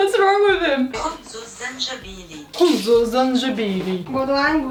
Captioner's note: Google translate voice speaks